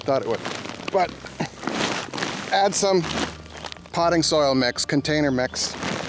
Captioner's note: crumbling